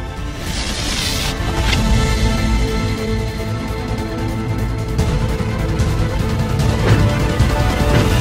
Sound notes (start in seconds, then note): 0.0 crackling; 4.3 thundering music